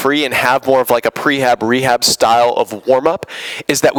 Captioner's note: none